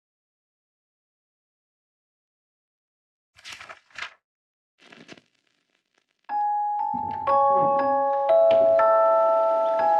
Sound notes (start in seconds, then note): 3.4 page turning; 6.4 light airy music